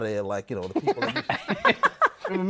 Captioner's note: laughter